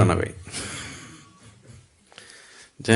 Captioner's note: laughs